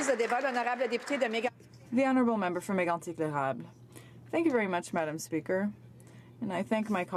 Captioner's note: applause